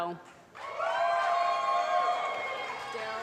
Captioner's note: applause